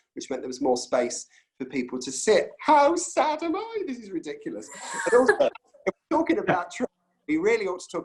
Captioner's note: laughs